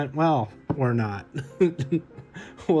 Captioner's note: chuckles